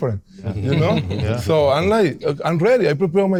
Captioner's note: all laughing